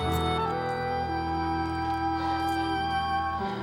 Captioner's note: breathing heavily